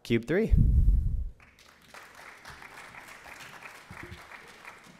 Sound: applause

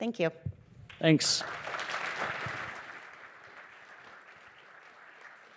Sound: applause

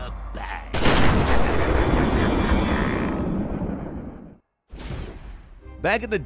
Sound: gun fires; Joker laughs

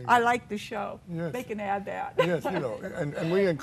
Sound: laughs

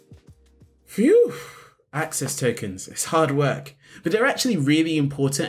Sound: sighs

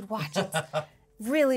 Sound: speaker laughs

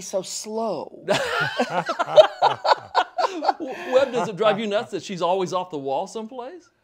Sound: laughter

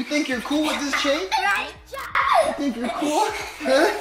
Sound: children laughing

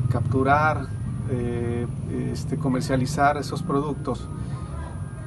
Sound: speaking Spanish

